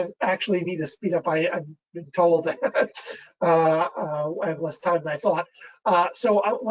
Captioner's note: laughs